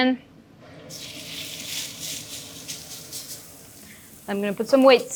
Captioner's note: steak sizzling